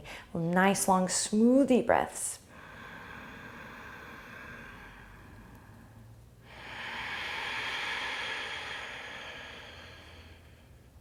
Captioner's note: breathing